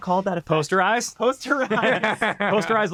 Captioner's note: laughs